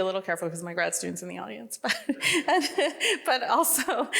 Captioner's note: laughs